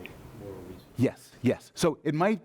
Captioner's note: voiceover